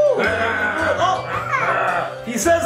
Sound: mummy growling

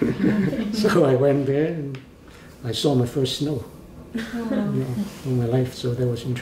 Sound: laughs

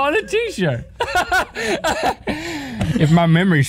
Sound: laughing

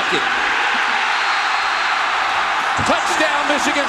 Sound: crowd cheering

